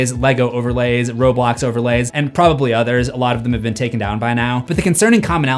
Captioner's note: none